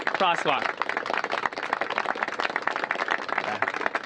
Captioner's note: applause